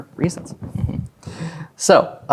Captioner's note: chuckles